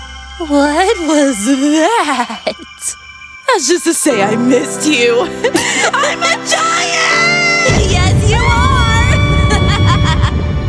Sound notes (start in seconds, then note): 5.2 giggling; 9.3 laughing